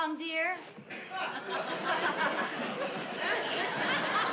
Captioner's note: audience laughing